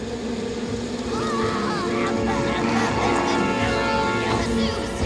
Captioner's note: groaning